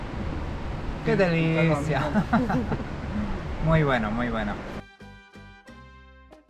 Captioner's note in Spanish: risas